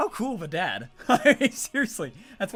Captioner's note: laughs